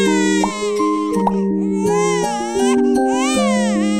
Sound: baby crying; soft music

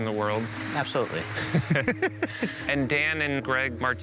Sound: both laughing

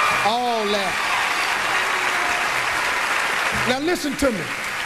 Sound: audience cheers

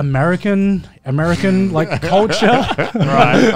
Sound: laughing

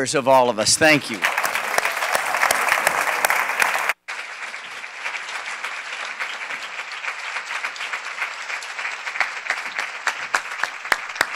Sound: applause

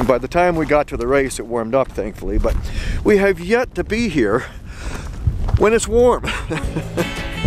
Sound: chuckles

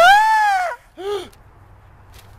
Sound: gasp

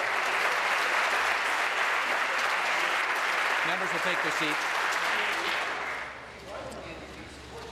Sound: applause

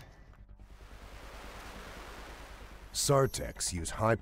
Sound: voiceover

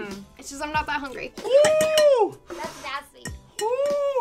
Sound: exclaiming

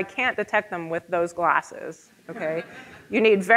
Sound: audience laughing

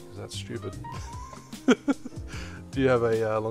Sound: laughs

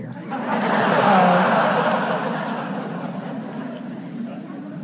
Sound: audience laughs

